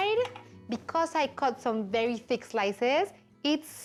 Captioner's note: none